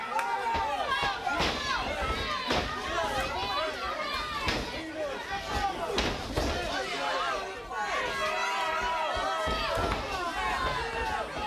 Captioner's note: crowd chatter